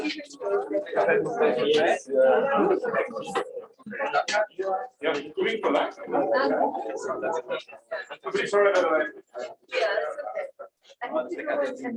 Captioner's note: background chatter